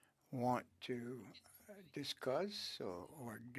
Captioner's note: speaking French